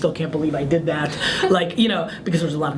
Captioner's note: laughs